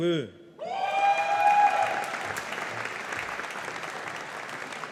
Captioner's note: audience applauding